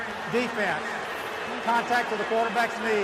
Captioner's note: booing